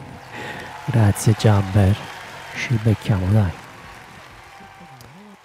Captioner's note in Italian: Applauso